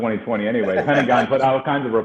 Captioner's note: laughing